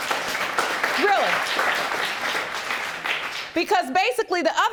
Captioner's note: audience applauding